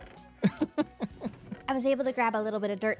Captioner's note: laughs